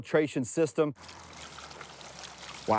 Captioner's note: water sloshing